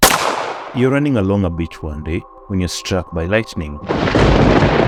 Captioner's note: thunderclap